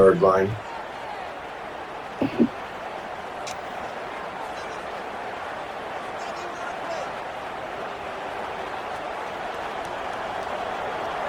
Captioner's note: crowd cheering